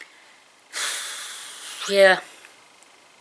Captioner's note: sigh